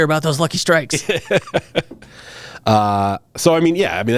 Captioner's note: laughing